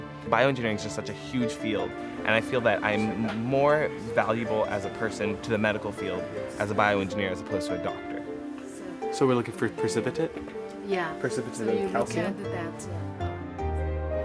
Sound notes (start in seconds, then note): 9.0 woman talking softly; 12.8 piano music playing